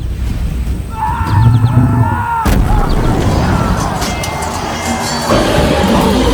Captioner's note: screams and sounds of wild debauchery